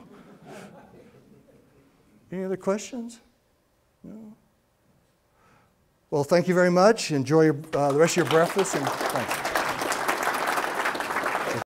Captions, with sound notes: (laughs from audience) Any other questions? No? Well thank you very much. Enjoy the rest of your breakfast and thank you. (applause)